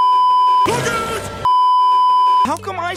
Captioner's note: beeeeeep